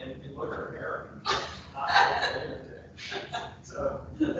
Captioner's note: people laughing drowns out speaker